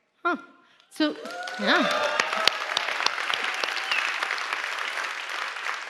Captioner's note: applause